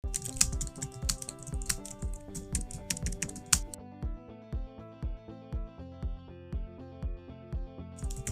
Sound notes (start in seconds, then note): 0.0 calm music; 0.0 keyboard clicking